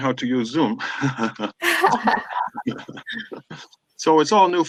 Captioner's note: laughs loudly